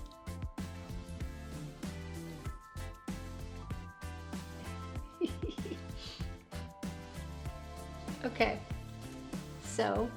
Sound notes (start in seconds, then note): 5.0 chuckles